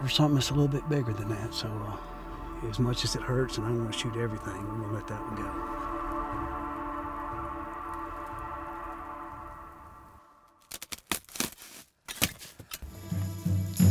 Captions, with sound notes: for something that's a little bit bigger than that. So, as much as it hurts and I wanna shoot everything. I'm gonna let that one go. (gun clicks)